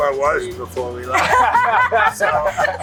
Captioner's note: laughing